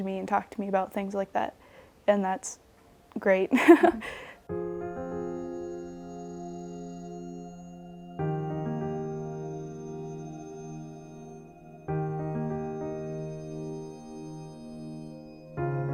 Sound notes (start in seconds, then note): 3.5 laughs; 4.9 soothing music